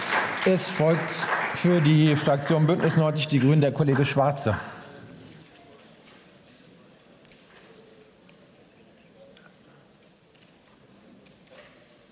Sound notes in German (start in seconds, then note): 0.0 Beifall